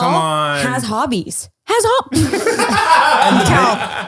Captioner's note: laughing